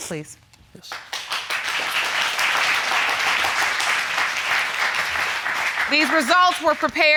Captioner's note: audience applauding